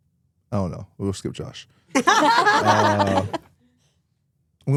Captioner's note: laughs